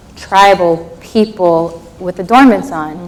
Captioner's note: none